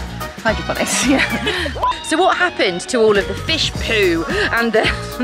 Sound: laughter

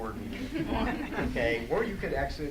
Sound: audience laughs

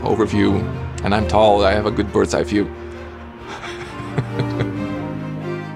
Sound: laughs

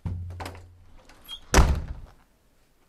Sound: door slams

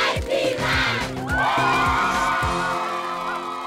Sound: cheers

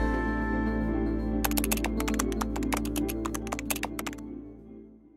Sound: keyboard typing

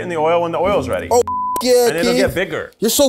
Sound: beep

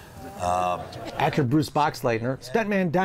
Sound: audience groans

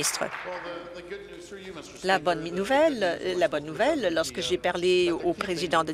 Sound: applause

